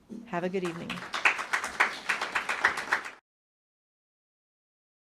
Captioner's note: audience claps